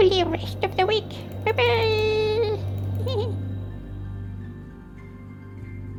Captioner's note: giggles